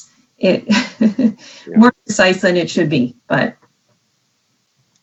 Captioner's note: chuckles